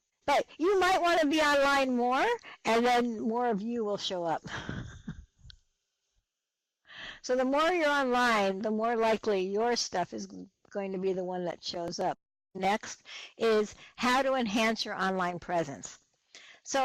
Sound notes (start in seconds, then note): 4.5 laughs